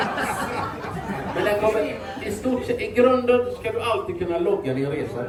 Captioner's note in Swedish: skratt